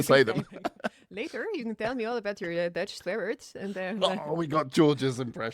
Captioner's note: dutch accent